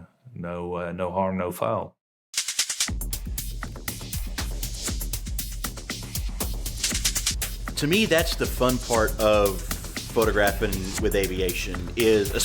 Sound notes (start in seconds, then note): 2.3 rhythmic clicking; 3.3 energetic music; 6.5 rhythmic clicking